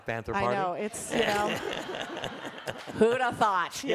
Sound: laughter

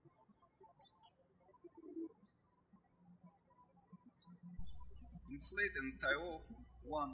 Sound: birds chirping

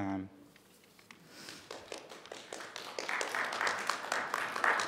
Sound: all applauding

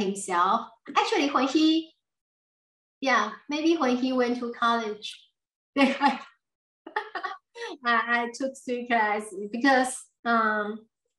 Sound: laughs

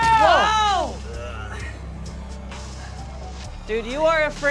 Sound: groaning

